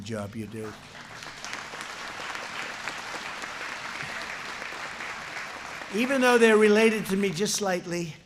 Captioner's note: applause